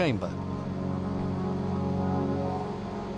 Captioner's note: generators